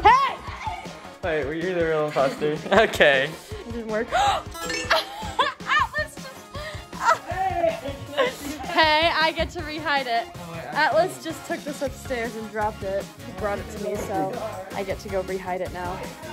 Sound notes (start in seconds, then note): 4.8 laughing; 4.9 gasp